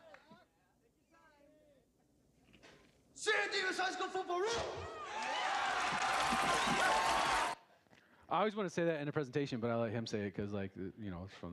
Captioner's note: applause